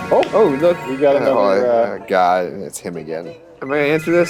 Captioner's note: phone ringing